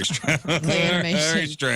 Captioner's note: laughing